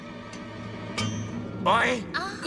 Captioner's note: clink